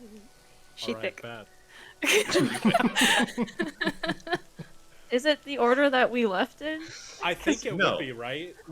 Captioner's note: laughter